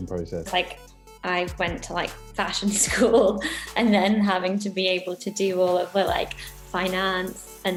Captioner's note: laughs